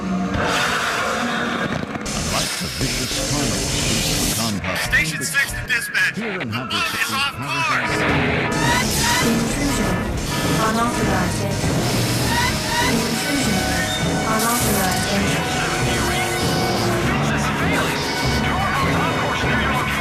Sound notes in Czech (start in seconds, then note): 2.1 syčící sprej; 9.0 pípání alarmu; 9.9 Electronic Voice; 13.1 pípání alarmu; 15.9 napjatá hudba